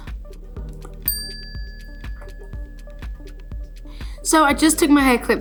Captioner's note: bell dings